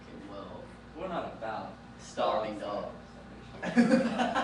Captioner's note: laughing